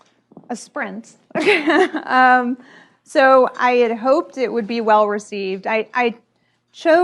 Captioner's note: laughs